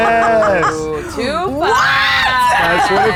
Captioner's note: players exclaiming